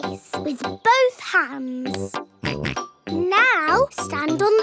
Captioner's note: snorts